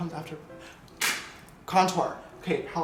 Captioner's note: clap